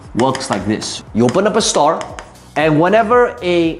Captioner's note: tapping marker